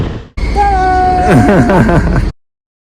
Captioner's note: laughs